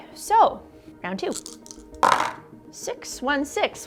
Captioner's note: dice clunking